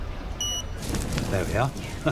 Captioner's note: card machine beeps